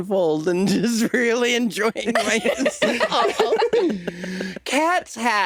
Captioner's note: chuckling